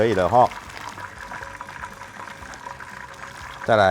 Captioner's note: bubbling sound